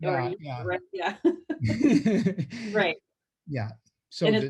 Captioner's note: laughing